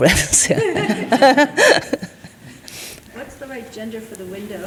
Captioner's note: all chuckling